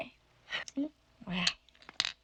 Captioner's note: laughs